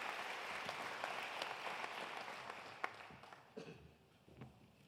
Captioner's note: applause continues